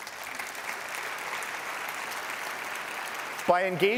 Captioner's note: applause